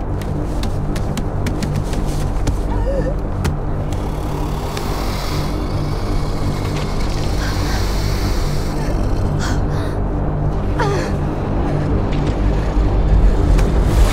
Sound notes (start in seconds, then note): 0.3 choking; 3.7 low growl